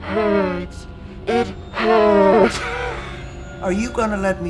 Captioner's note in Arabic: يضحك